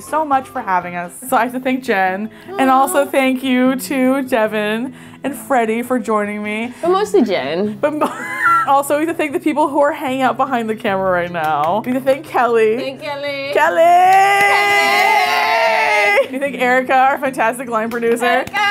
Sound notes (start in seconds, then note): 8.7 laughs; 18.4 cheering